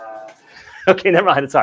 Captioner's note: laughing